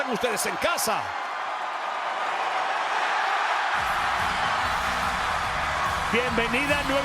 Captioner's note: applause